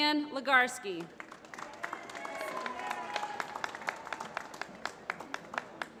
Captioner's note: applause